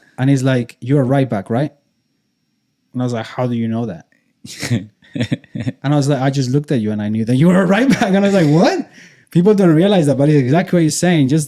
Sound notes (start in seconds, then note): 4.5 laughs